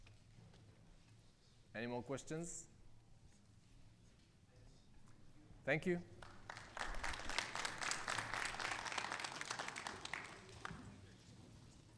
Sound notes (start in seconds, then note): 6.2 audience applauding